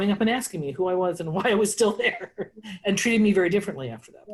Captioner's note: laughs